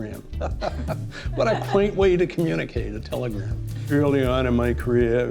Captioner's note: laughing